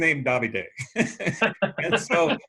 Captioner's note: both laughing